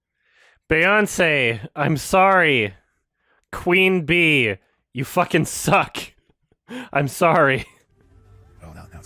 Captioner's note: chuckles